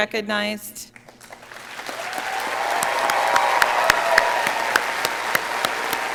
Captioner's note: audience applauding